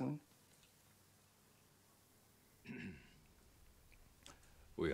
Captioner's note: clears Throat